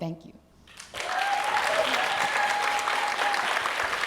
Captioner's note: applause